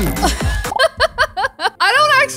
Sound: laughs

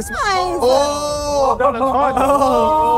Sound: KSI cheering; laughing

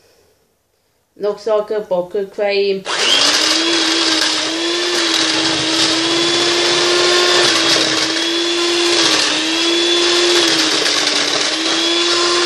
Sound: electric or hand whisk noise

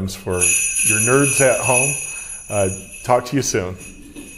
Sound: bells ringing

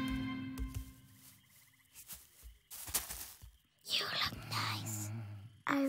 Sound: whispers

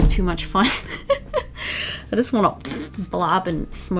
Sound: mouth fart

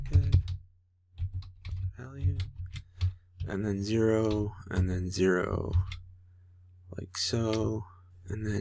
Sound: typing

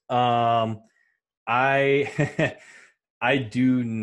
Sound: laughs

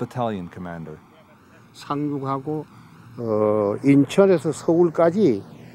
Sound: speaking foreign language

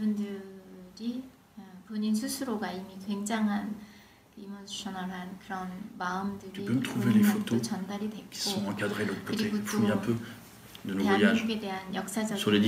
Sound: foreign language

